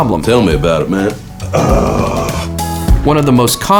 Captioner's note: grunts